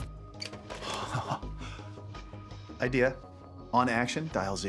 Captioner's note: laughs